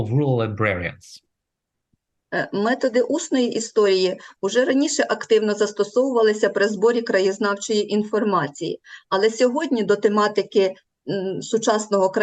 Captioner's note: foreign Language